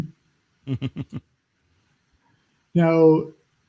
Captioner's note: laughs